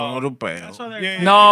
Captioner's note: speaking Spanish